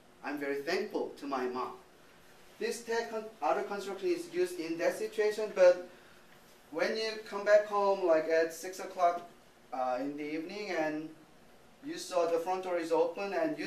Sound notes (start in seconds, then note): 2.6 speaking japanese